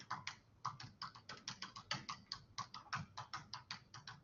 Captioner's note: typing